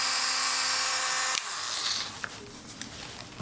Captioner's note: drill stops